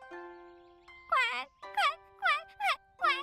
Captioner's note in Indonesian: kwek menangis